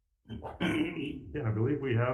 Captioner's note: clears throat